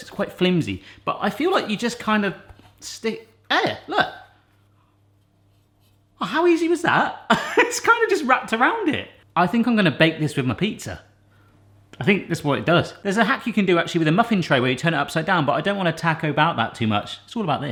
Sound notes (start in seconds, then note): 6.8 laughs